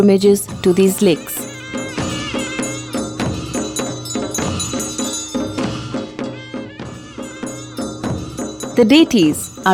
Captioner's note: bells jingling; soft drumming; reed pipe music